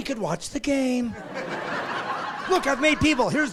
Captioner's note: laughing